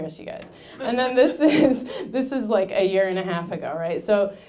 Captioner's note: laughing